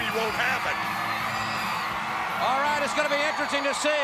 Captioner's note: crowd cheering